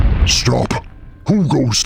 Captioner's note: flames roaring